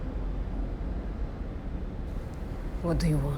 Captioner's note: car engines revving